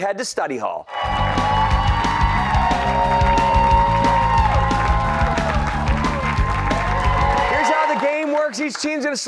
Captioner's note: cheers and applause